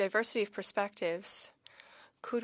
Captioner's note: speaking French